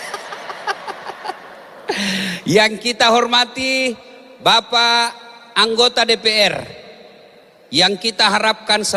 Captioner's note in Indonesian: tertawa